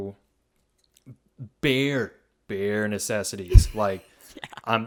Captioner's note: laughs